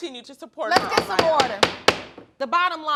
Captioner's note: gavel banging